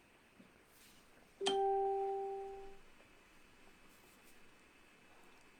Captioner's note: bell